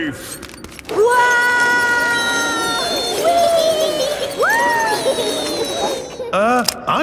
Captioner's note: all yelling